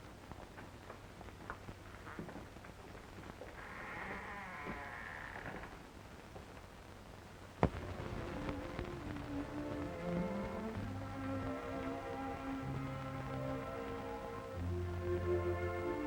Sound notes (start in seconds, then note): 3.5 door creaks; 7.9 gentle orchestral music